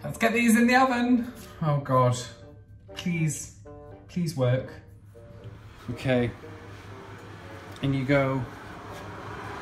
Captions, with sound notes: Let's get these in the oven. Oh, God. Please, please work. Okay. (oven humming) In you go.